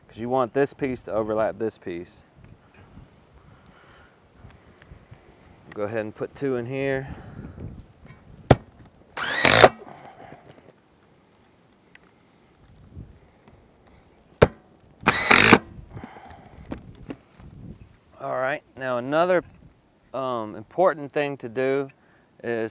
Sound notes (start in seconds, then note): 9.2 power tool whirring